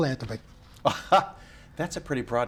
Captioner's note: chuckles